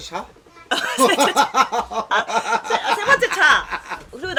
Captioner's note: laughing